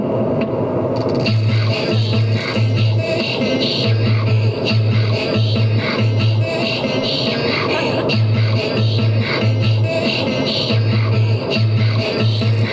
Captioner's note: whispered chanting